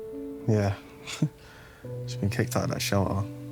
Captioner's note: Ethan chuckling